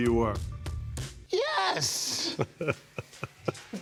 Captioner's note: laughing